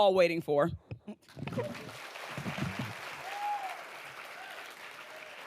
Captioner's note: audience applauding